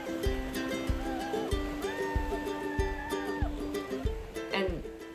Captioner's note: slow upbeat music; women yelling